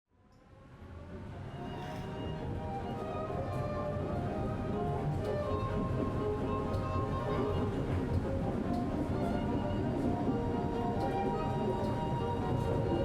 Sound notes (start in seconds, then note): 1.9 classical music; 1.9 train rumbling